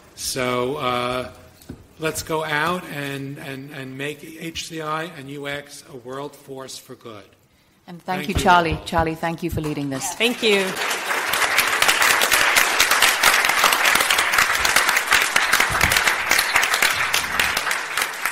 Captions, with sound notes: So, let's go out and make HCI and UX a world force for good. - And thank you Charlie. Charlie, thank you for leading this. - Thank you. (group applauding)